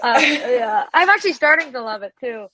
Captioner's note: laughs